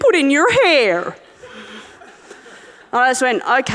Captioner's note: audience laughing